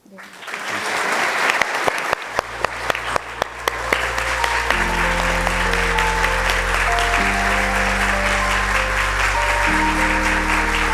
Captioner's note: applause